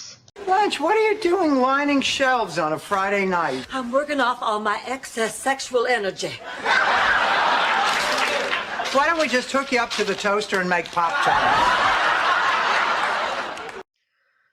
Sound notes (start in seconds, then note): 6.2 laughter and clapping from audience; 11.3 more laughter and clapping